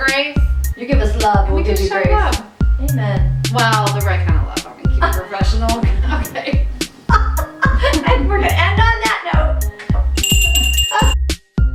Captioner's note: bell